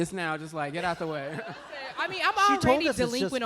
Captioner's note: laughter